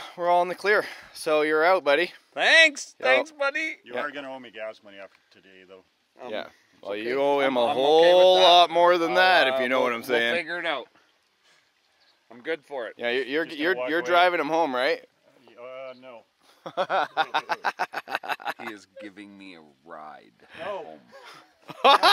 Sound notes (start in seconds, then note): 16.6 laughing